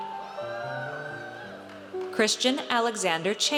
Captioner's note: audience cheers